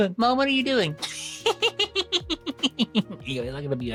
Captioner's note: laughs